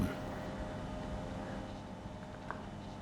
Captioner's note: soft whirring